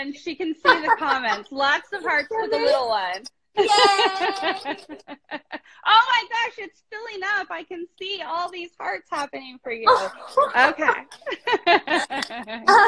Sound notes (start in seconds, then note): 3.6 laughs; 10.4 both laughing